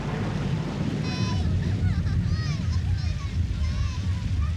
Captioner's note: children playing, indistinct